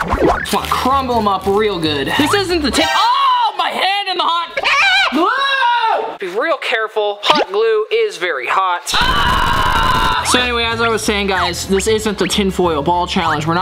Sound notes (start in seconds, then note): 4.6 screaming; 8.9 screaming